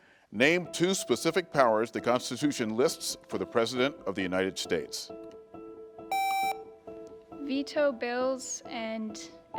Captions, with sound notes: Name two specific powers the Constitution lists for the president of the United States. (buzzer beeps) - Veto bills and execute laws?